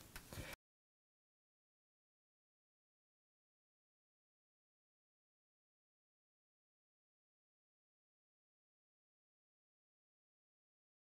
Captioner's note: no Sound Present